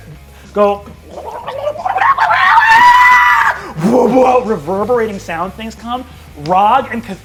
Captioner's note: loud crowing